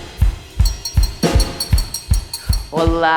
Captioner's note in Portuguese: tilintar